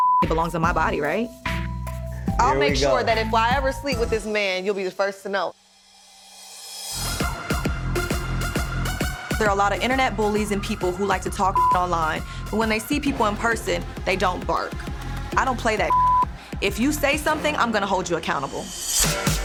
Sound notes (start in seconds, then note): 0.0 beep; 7.5 upbeat music; 15.8 beep; 19.2 upbeat music